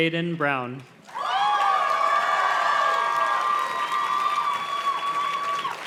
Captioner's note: audience cheers and claps